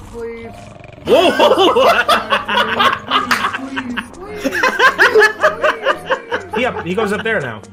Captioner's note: joyous uproarious laughter